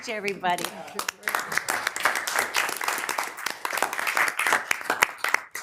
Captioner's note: attendees applauding